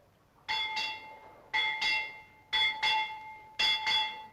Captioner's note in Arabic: رنين الجرس